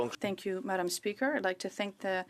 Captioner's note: speaking French